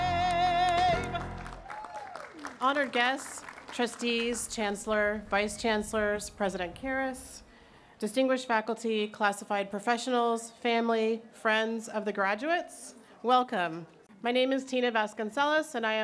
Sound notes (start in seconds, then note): 0.1 cheering